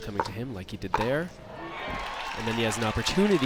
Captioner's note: crowd applauds